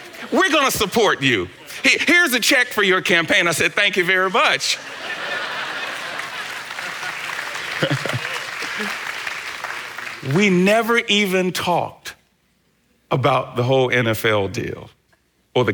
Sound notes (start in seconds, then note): 4.9 congregation laughing